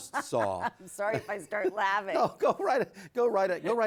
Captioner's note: laughs